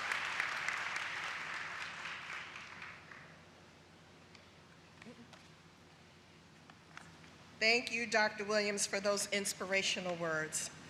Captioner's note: applause